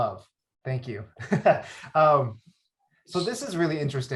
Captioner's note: laughs